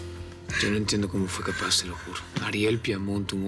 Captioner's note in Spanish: Sollozos